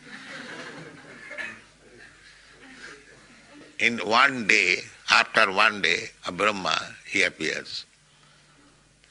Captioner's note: laughter